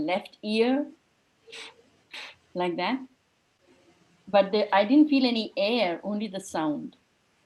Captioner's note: blows air from mouth